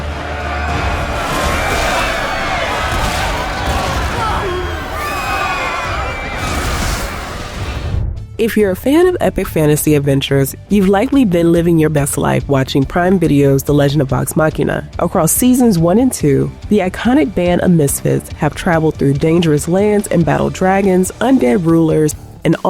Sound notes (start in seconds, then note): 0.1 people screaming; 0.8 explosions booming; 4.2 people groaning; 6.5 fire roaring